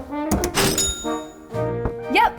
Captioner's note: till dings